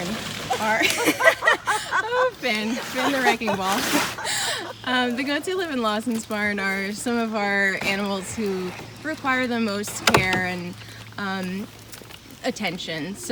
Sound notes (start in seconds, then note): 0.5 laughing